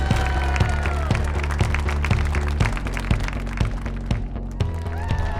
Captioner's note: cheers and applause; crashing sound; cheers and applause